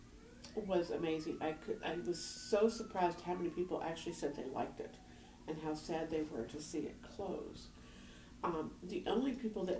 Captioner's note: background siren